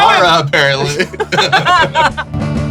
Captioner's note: laughs; laughter